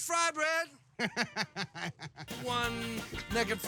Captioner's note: chuckling